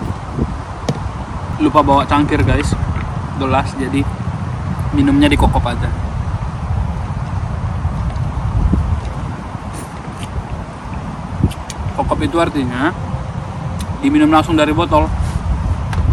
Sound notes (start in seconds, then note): 5.7 local language